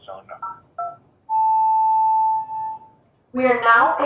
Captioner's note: phone beeps